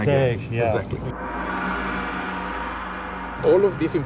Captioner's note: gong crashing